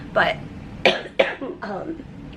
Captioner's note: coughing